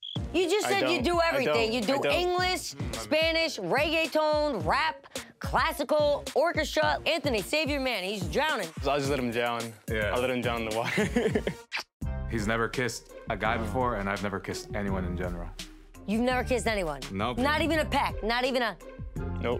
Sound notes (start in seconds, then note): 10.9 laughs